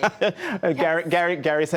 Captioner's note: laughter